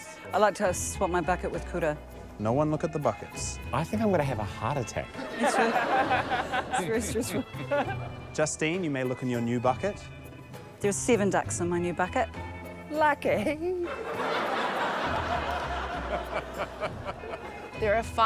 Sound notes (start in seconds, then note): 5.2 laughter; 11.6 laughter